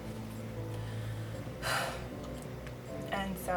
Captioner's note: deep sigh